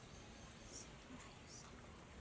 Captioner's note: whispers